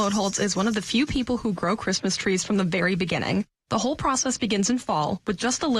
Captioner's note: nat pop of seeds